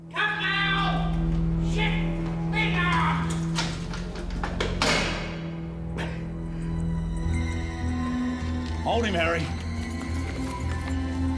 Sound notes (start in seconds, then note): 5.9 breathes heavily